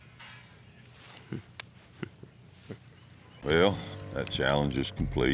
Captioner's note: chuckles